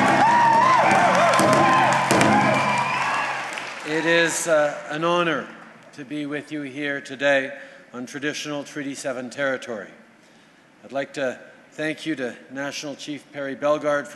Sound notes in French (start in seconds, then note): 0.0 Acclamations et battements de tambour